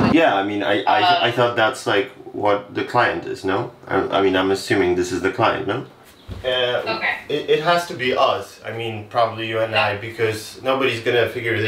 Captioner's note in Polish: rozmawia przez telefon po angielsku